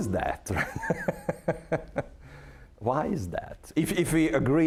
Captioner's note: laughing